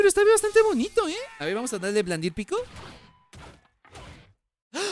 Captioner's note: sounds of electric shocks